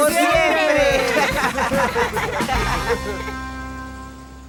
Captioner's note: all laughing